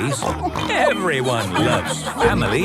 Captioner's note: snorts